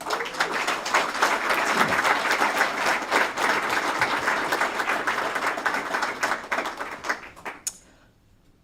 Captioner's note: applause